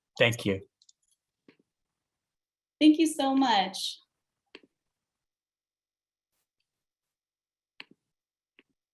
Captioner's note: pause